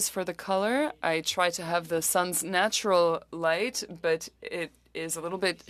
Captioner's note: speaking French